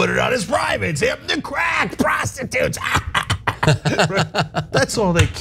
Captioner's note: laugh